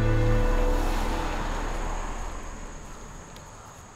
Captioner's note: roadway noise